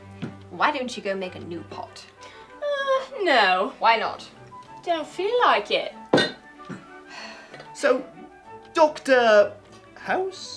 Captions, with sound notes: Why don't you go and make a new pot? Ahhhhhhh, no. Why not. Don't feel like it. [Sigh] So, Dr....House?